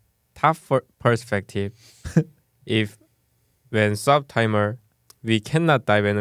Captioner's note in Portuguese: risos